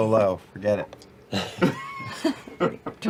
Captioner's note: laugh